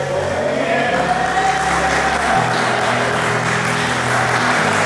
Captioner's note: audience cheering and clapping